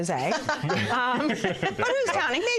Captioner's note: laughter